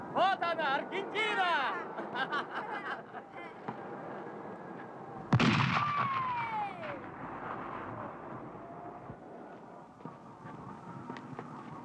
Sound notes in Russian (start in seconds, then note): 1.5 смеются; 5.3 выстрел; 6.8 радостно